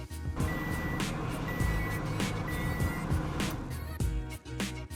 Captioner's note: microwave beeping